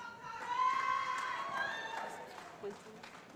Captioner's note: shouting